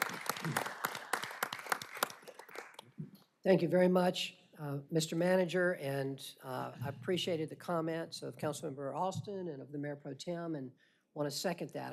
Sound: applause

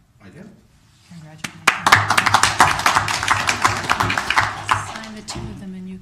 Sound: applause

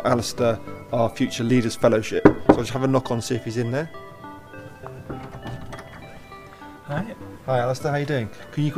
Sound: knocks

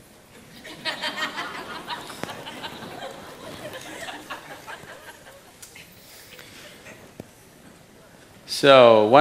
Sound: laughter

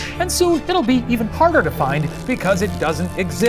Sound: none

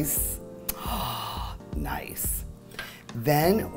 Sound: gasps

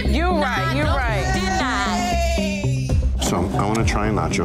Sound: cheering

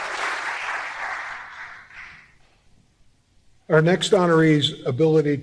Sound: applause

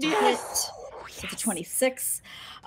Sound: whispers

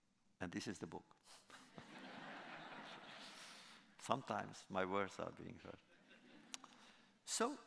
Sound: laughter

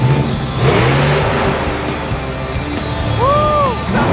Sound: truck engine revs

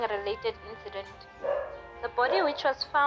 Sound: dog Bark

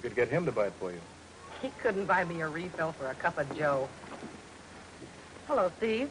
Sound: chuckles

